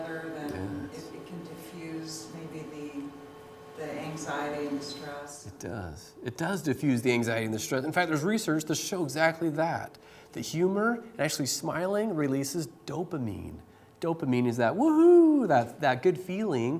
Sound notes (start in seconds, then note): none